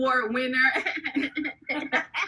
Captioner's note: laughing